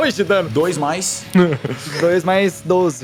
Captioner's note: laugh